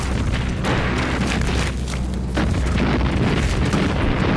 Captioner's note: bombs exploding